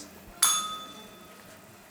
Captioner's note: bell rings